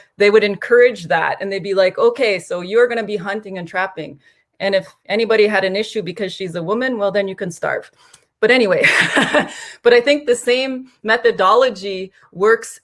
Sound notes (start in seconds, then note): 8.8 laughter